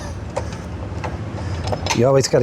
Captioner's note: laughing